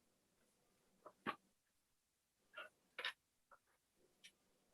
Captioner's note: keyboard typing